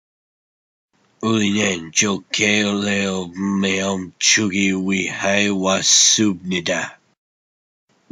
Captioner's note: speaking korean